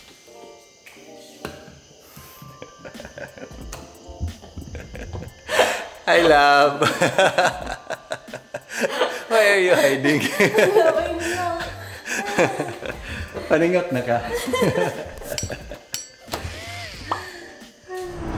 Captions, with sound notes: (giggles) Hi, love! (laughs) Why are you hiding? (laughs)